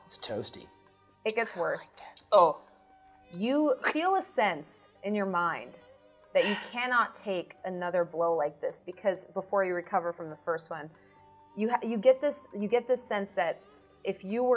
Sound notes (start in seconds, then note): none